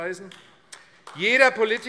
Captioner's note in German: Beifall AfD